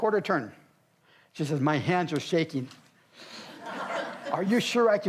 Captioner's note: audience laughs